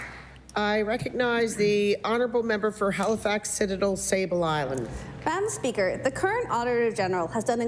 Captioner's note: applause